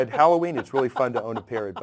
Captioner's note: laugh